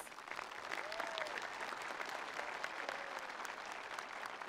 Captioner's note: attendees applauding